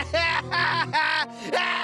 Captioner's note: laughing